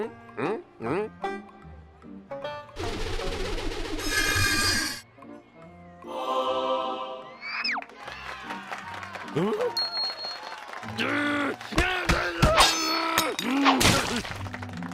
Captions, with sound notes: HMM? HMM? HMM? HMM? (pumpkin whooshing) (choir sings) (cheers and applause) HMM? RRR! (shouting) MMM!